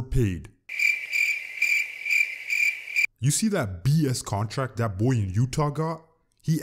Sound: crickets

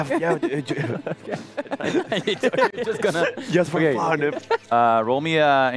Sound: laughs

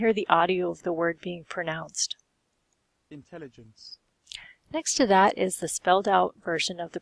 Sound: word is pronounced with British accent

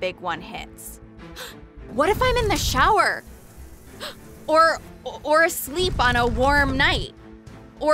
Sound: gasp

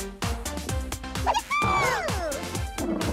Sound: gasps

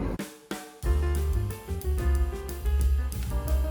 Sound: inhaling a storm

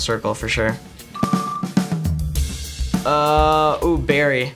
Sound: beeps

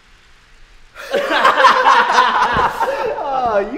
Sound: laughter

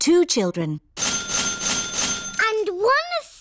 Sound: dinging

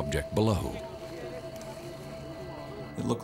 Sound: indistinct chatter

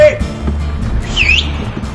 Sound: whistling

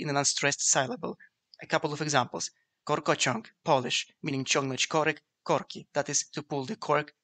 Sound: Polish

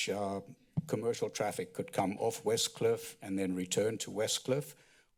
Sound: thud

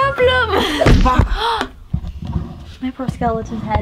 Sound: gasps

